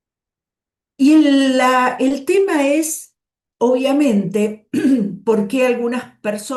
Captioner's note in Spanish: carraspeo